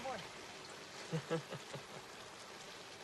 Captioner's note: laughs